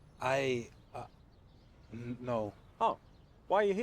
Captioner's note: none